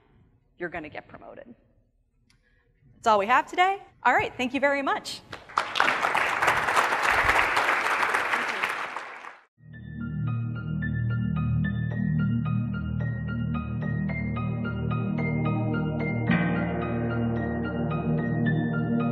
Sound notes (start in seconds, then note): 5.4 audience applauding; 10.0 light music